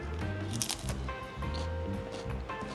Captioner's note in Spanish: Crunch